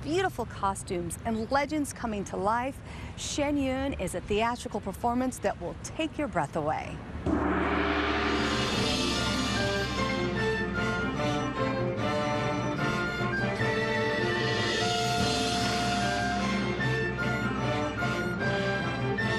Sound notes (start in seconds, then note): 4.8 gong clangs